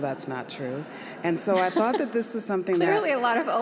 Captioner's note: audience laughs